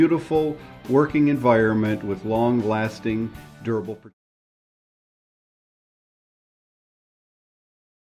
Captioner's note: audio fades out